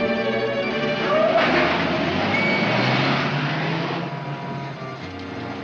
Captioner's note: whistle blows; tires squeal & car rumbles away; whistle blows